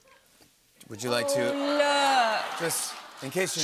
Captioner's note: audience "Awws"